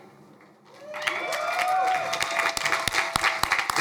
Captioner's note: crowd cheering